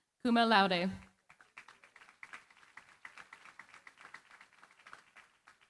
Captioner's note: applause